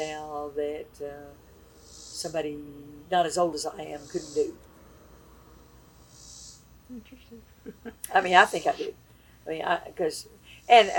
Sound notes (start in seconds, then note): 6.9 laughs